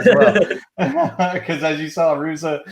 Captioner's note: laughs